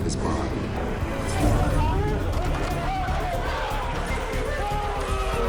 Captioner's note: yelling and commotion